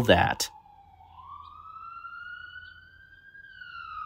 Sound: louder siren

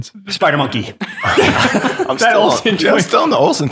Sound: all chuckle

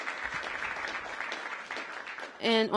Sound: applause

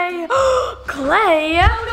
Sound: gasps

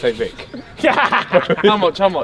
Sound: men laughing

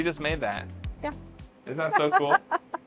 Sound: laughs

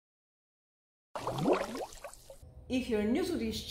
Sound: water glugging

